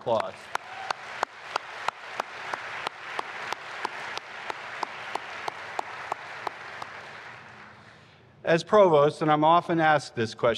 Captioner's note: applause